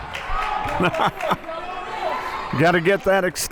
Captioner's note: laughing